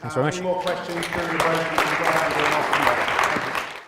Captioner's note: applause drowns out speaker